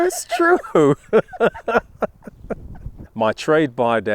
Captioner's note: laughing